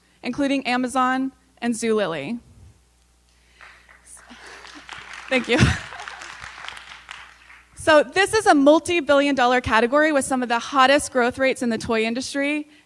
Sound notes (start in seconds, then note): 3.5 applause